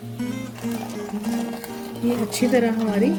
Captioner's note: stirring